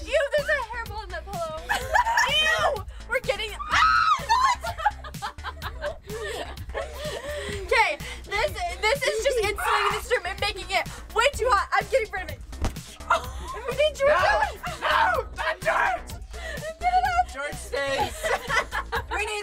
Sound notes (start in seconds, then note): 3.4 laughs; 3.4 shrieks